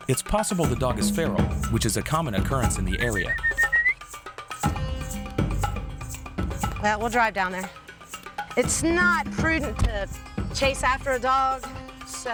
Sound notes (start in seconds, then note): 3.0 whistling